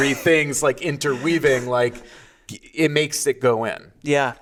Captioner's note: laughing